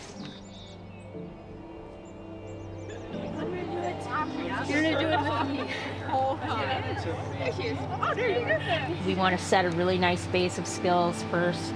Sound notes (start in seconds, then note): 5.4 students murmur and laugh